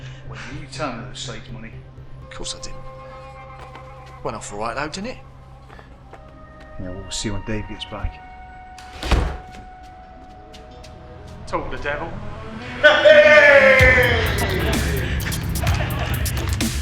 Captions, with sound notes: - Wait, you didn't tell him that it was Slade's money? - Of course I didn't. Went off all right though, didn't it? - Yeah, we'll see when Dave gets back. (door slamming) - Talk of the devil. (Daveyboy cheering) (upbeat techno music)